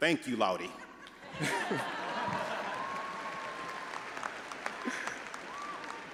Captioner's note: all laughing and applauding